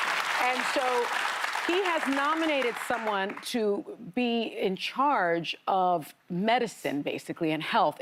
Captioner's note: applause